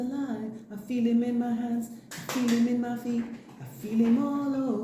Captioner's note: clap twice